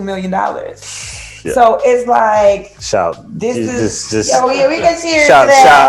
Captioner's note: shout!; clinks glasses